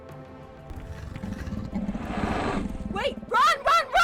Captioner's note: growling